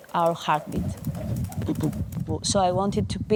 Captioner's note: heart beating